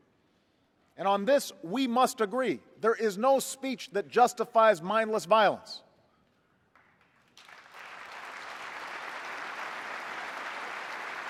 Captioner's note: applause